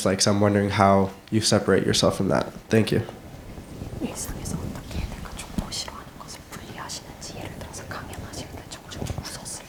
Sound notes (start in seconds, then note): 4.6 interpreter whispering Korean